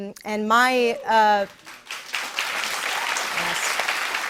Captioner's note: applause